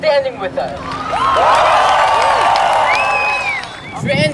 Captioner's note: cheers and applause